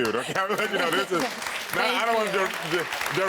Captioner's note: chuckles